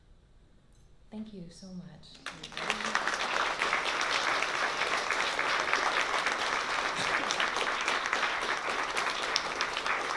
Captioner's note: applause